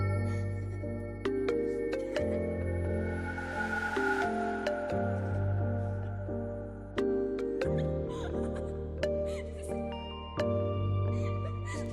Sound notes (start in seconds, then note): 7.7 child laughing